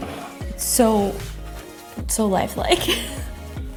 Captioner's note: chuckles